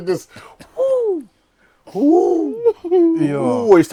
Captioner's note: screaming